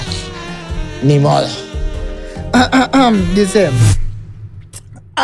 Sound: coughs

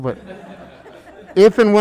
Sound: members laughing

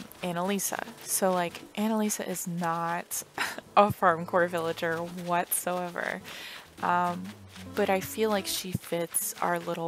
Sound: laugh

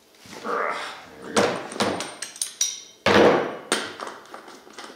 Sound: wrench clattering

